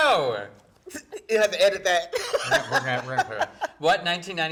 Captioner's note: laughing